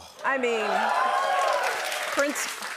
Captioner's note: cheers and applause